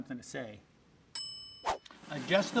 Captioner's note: bell dinging